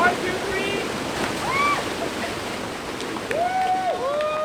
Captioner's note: screams; everyone cheers